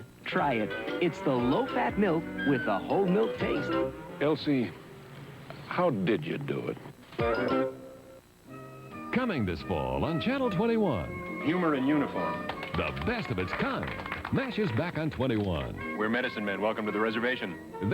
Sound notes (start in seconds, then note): 3.8 flourish; 7.0 flourish; 12.3 characters applaud